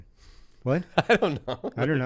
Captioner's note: laughs